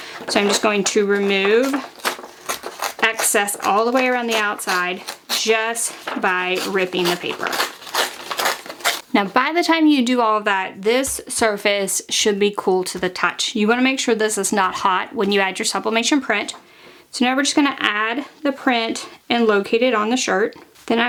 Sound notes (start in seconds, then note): 7.6 paper rustling; 7.6 zapping